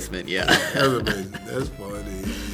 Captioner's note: laughing